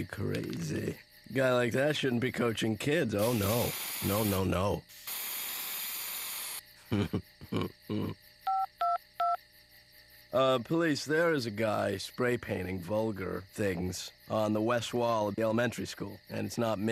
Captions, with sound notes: HE'D HAVE TO BE CRAZY. A GUY LIKE THAT SHOULDN'T BE COACHING KIDS, OH, NO. NO, NO, NO. (snickering) (touch tones beep) POLICE, THERE IS A GUY SPRAY PAINTING VULGAR THINGS ON THE WEST WALL OF THE ELEMENTARY SCHOOL